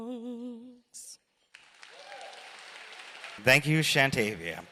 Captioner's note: applause